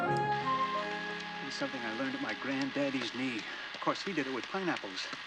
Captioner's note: camera Whirring